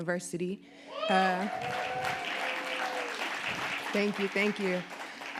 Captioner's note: audience applauding